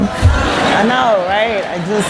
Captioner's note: laughter